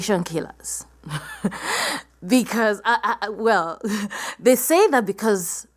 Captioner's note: laugh